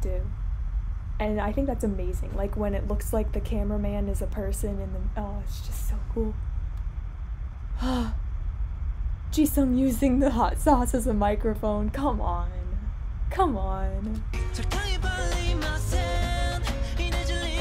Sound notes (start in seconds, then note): 7.8 breathes